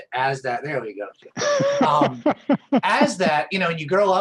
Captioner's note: laughter